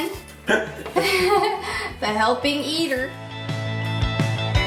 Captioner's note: laughs; upbeat music